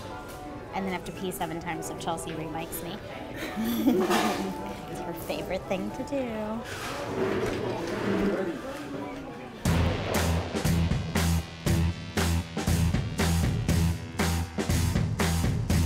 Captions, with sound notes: and then have to pee seven times, so Chelsea remics me. (laughing) It's her favorite thing to do. (upbeat rock music)